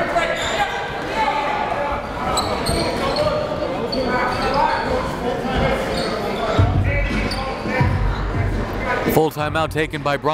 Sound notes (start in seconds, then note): 0.9 gymnasium bustles loudly; 7.6 uptempo music